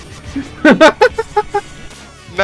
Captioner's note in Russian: Гогочет под ритм бега Пеппино